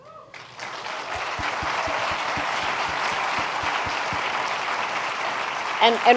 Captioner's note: applause